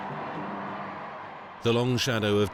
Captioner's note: crowd cheering